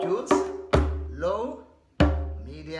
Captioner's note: deep drum thud; drum thud